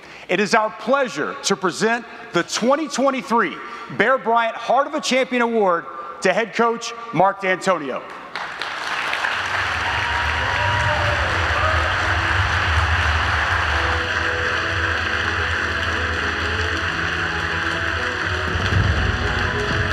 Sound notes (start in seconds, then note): 8.3 audience applauding; 11.6 gentle music